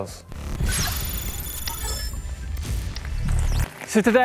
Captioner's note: electronic beeping and static zapping